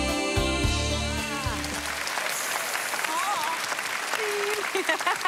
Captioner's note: applause